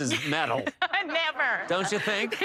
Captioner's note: laughs